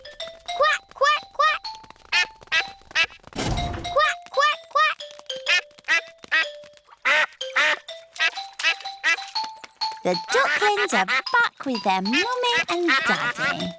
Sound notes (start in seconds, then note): 2.1 ducklings quack; 6.9 ducks and ducklings quack; 7.0 ducklings quack